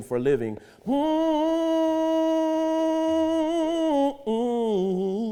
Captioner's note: humming